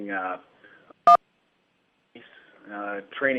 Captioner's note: beeping